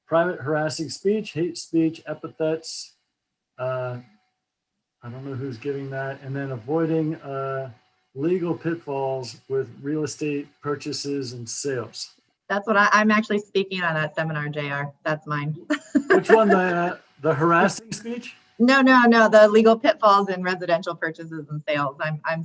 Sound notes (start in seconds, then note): 15.6 laughs